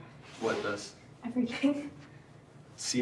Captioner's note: chuckles